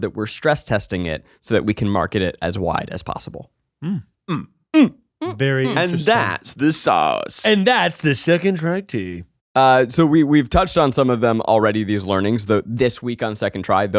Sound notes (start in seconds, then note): 4.3 grunts